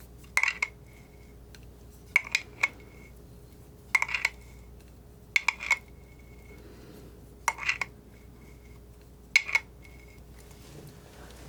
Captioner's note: scratching